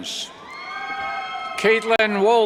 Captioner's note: cheers